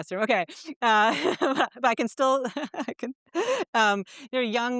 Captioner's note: chuckles